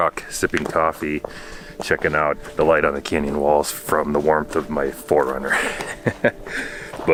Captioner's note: laughing